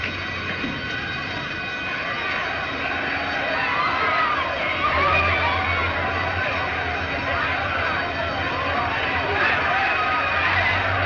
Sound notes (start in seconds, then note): 1.4 clamoring